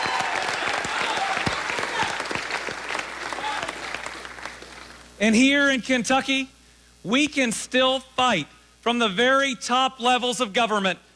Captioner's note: applause